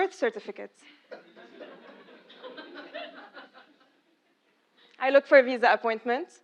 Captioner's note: laugh